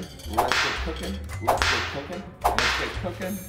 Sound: whip cracking

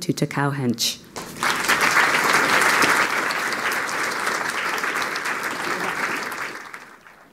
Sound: applause

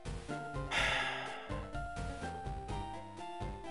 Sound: sigh

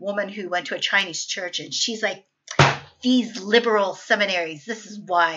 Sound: slams Desk

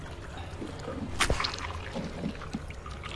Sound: knife stab

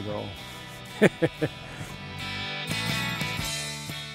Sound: laughing

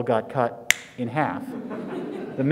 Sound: snaps fingers

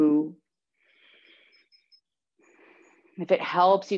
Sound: breathing deeply

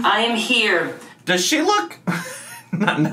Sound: laughs

